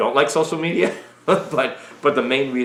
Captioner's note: chuckles